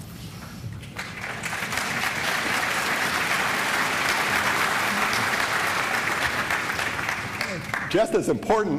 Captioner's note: applause